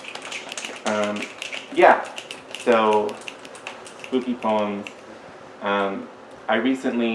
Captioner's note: agreement and snaps